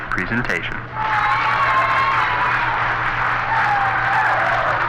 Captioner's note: people cheering